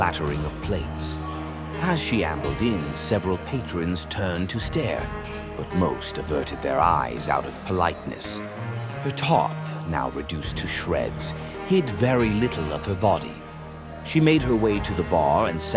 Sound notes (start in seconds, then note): none